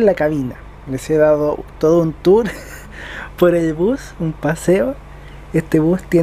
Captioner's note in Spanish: risas